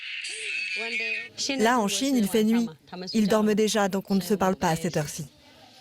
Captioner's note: speaking foreign language